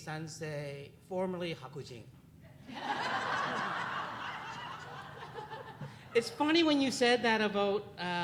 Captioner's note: audience laughs